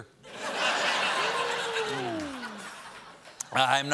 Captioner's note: laughter